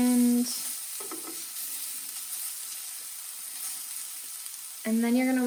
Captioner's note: sizzling